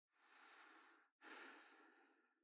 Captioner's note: Bastian breathing